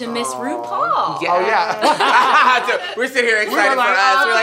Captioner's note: all laugh